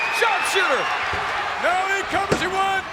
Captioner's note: audience cheers